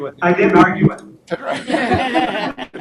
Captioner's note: laughter